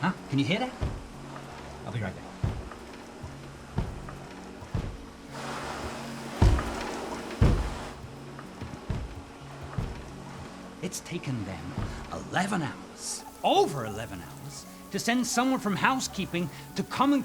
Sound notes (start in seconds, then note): 3.5 vacuum banging against door